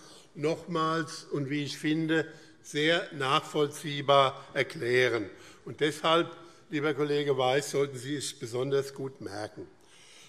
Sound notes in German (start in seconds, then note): none